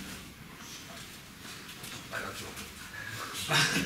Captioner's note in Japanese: 苦笑